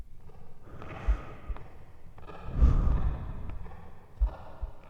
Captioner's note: footsteps echo